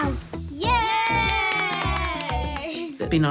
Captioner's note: all cheer, clap